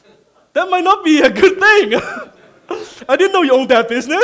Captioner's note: laughing